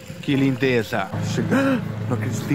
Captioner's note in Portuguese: suspiro de surpresa